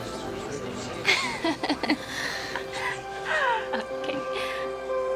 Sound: Kaylee laughs

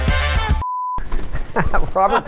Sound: tones

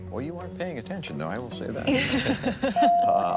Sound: Pat and Lauren laugh

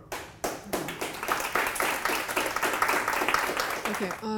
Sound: audience clapping

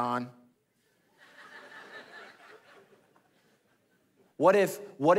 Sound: congregation laughing

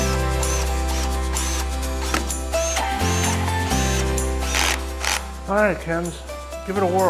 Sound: upbeat music; drill whirring

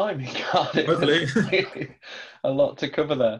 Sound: both laugh

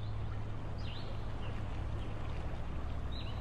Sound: sound of birds chirping

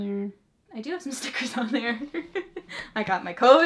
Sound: laughs

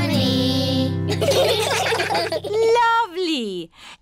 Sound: children giggling

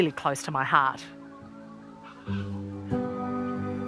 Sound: birdsong

